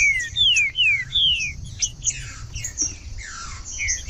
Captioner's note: trinca ferro cantando